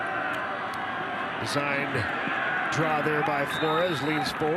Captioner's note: referee blows whistle